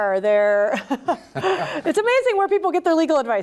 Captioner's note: laughter